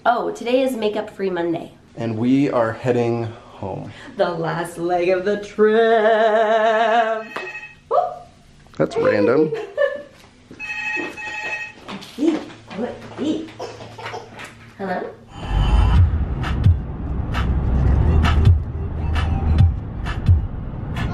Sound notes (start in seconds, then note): 7.1 phone rings; 9.0 giggles